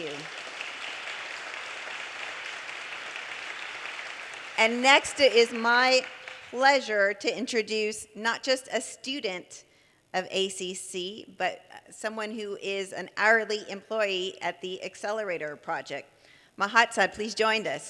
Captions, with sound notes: Thank you. (audience applause) And next is my pleasure to introduce not just a student of ACC, but someone who is an hourly employee at the ACCelerator Project.